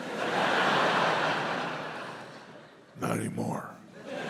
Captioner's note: audience laughs